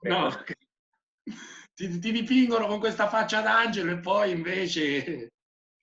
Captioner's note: laughing